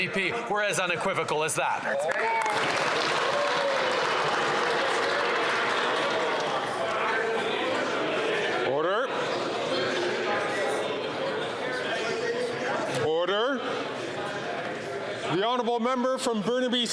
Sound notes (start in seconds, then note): 5.8 applause